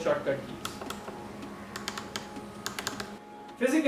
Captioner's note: buttons click